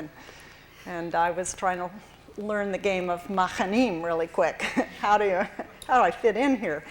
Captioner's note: hebrew